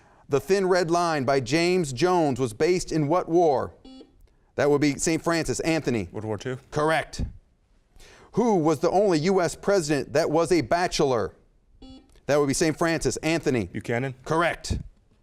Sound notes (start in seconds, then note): 3.8 beep; 11.8 beep